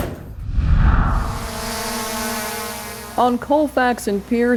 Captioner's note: drone buzzing